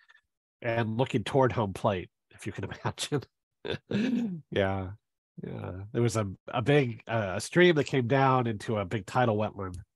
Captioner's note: laughs